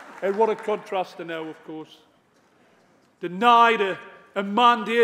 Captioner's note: applause